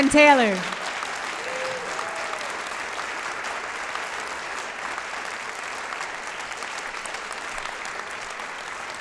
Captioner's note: applause